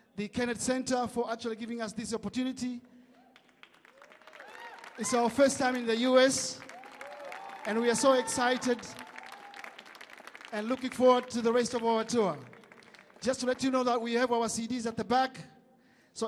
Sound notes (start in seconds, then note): 4.1 audience cheering; 4.1 audience clapping